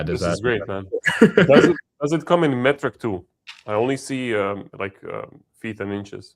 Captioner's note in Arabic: ضحك